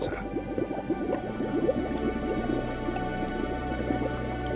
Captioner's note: water bubbles